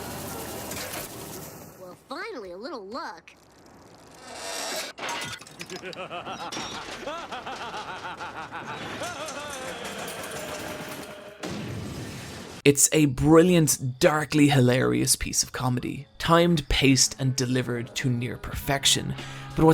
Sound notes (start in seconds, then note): 5.6 evil laughter